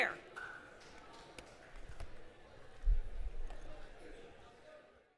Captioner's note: chatter